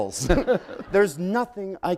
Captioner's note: laughter